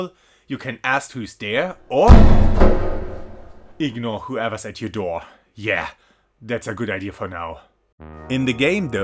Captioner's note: banging